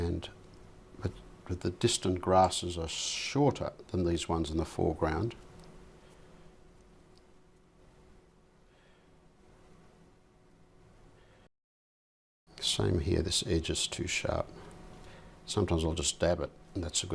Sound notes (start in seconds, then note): 8.3 silence